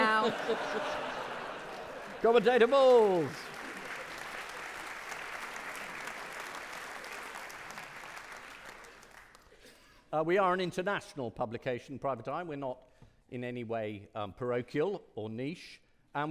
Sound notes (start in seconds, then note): 0.0 audience laughing; 3.6 audience clapping